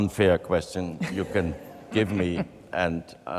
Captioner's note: chuckles